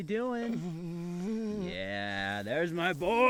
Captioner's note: Keith groaning